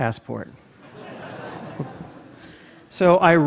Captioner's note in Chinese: Laughter; 笑聲